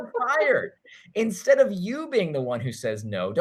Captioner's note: chuckles